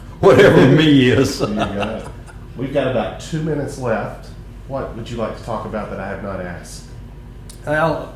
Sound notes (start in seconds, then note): 0.2 laughter